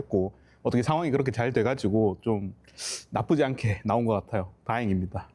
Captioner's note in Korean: 콧방귀